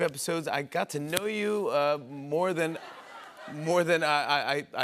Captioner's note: laughter